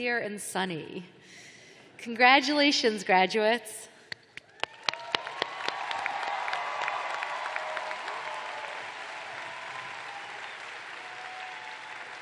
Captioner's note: cheers and applause